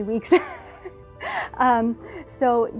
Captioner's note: laughter